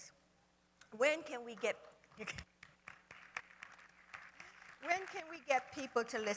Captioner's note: applause